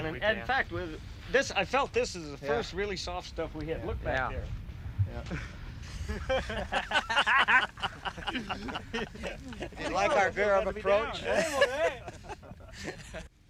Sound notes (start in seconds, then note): 5.8 all laughing